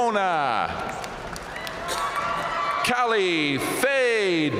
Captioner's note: audience cheering and applauding